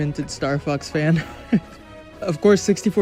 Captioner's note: chuckles